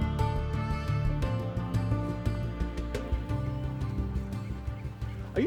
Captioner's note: seabirds crying, water crashing against the dock